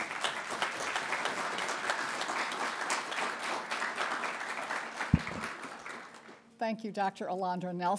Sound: applause

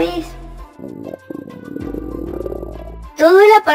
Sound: grumble

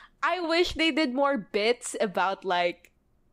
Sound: none

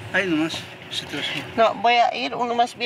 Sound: speaking in foreign language

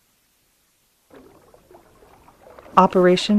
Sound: water gushes in the distance

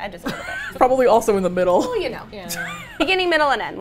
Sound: laughs

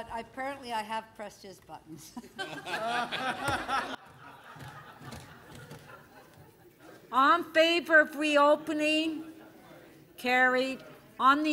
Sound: laughter

